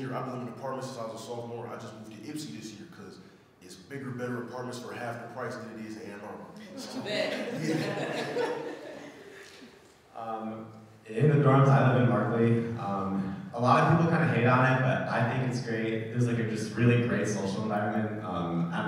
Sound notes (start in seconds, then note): 6.6 audience laughing; 10.4 laughs